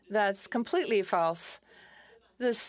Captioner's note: speaking FRENCH